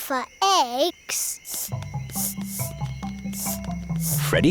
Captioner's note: sniffing